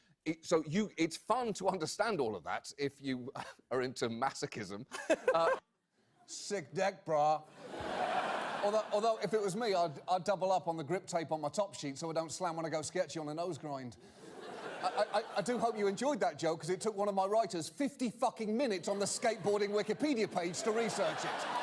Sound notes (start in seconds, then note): 4.9 laughter; 6.4 in skater voice; 14.8 in normal voice